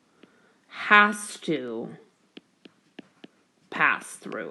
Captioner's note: keyboard Tapping